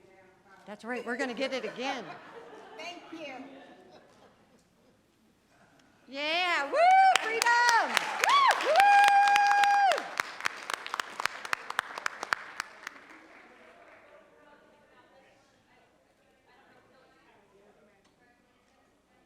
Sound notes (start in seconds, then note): 6.6 audience cheering; 6.7 audience applauding; 15.1 everyone chattering